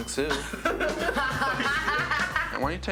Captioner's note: roommates laugh